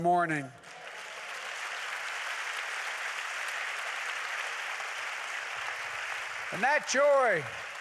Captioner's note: applause